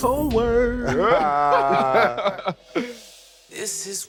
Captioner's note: laughter